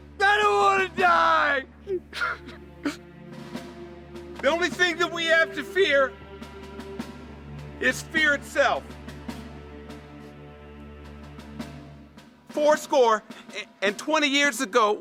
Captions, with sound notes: I don't wanna die! (sobbing) - The only thing that we have to fear... Is fear itself. Four score and 20 years ago.